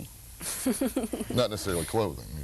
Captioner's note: laughing